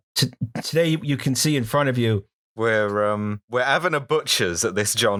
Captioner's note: cockney voice